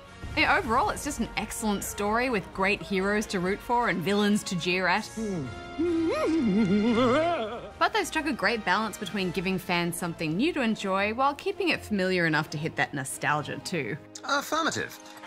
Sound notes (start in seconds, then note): 6.1 giddy laughter